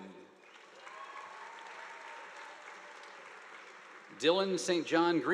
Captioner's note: audience applauding